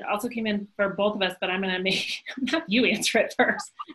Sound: laughs

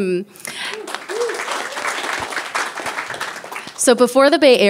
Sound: people applauding

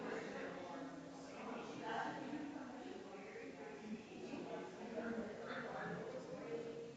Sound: people chattering distantly continues

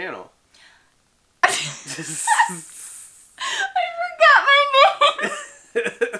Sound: laughter

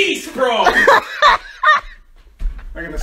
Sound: jk laughing

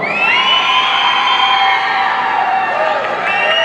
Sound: audience cheering

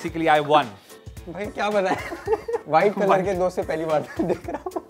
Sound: both laugh

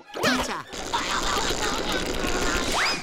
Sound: screaming

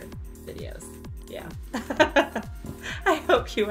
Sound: laughing

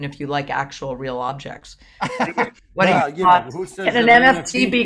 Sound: laughs

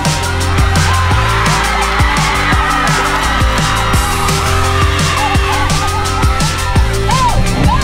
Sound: cheers of excitement

